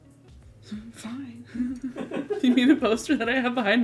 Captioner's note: laughs